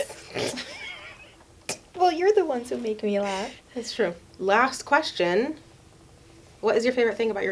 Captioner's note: laughs; both laugh